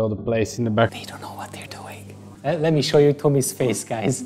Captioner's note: whispering